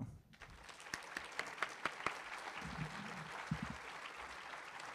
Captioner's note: audience applauding